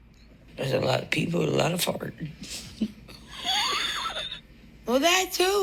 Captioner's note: laughing